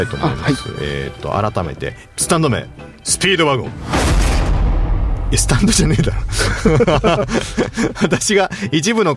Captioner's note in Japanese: 笑い